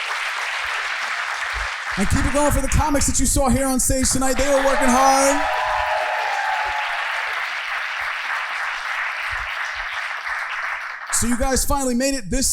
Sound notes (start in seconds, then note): 6.0 audience cheering